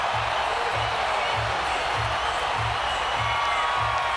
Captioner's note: crowd cheering